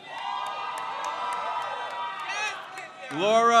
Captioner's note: crowd cheers